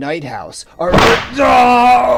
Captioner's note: slap